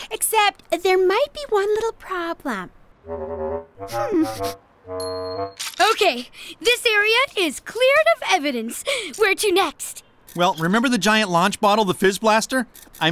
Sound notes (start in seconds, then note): 4.0 whimpers